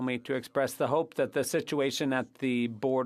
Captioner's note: speaking French